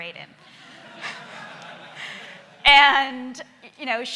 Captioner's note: laughing